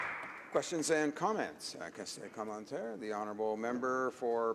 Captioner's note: applause